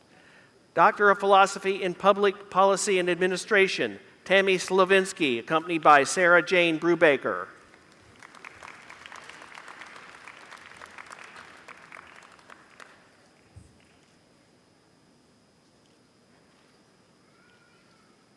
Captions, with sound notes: Doctor of Philosophy in public policy and administration. (Applause)